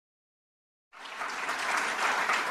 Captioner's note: applause